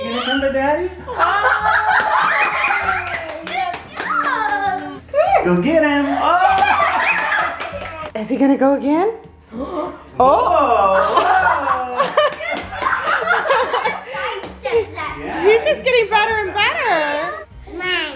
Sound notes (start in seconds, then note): 1.9 everyone cheers and applauds; 6.3 everyone cheers and applauds; 12.0 applauds